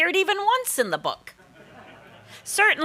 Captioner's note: audience laughing